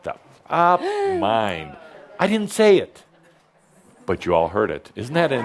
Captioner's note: said meekly; gasps